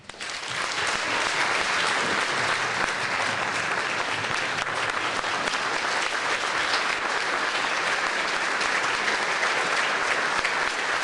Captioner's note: applause